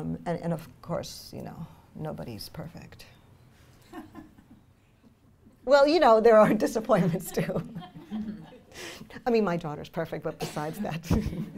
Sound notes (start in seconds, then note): 3.5 laughing; 3.5 voiceover; 11.4 laughs